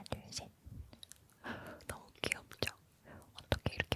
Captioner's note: gasp